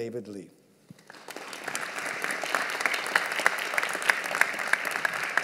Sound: audience applauding

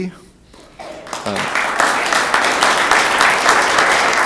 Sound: room applauds

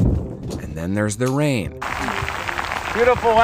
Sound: rain pattering

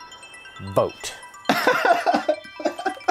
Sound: laughs

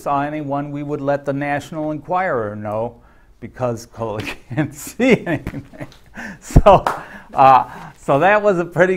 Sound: claps

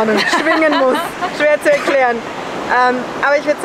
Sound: laughs

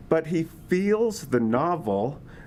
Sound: none

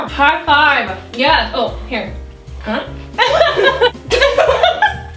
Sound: both laugh

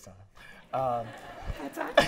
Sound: laughter

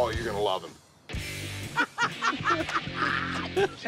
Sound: laughing

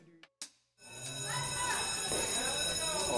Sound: school bell rings

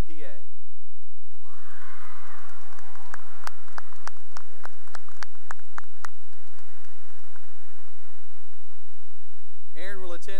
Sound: cheering and applause

